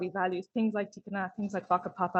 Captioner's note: speaks in foreign language